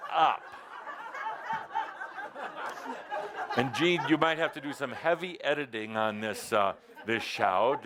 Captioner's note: laughter